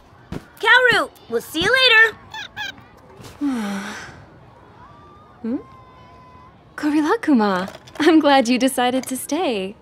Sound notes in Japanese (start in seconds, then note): 1.6 さえずり; 3.4 深いため息